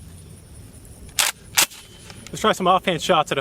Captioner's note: cocks gun